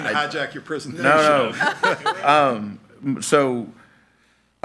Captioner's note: laughing